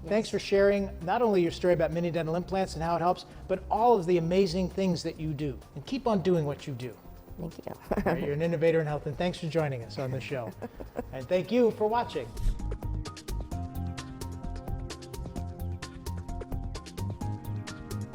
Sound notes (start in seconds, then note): 7.7 laughs; 13.0 upbeat music